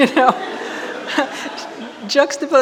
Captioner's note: audience laughing